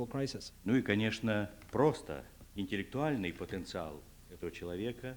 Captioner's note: non-english speech